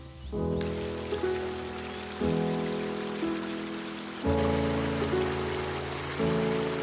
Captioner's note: tranquil music; water babbling